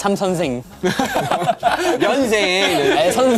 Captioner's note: haha / Haha / Haha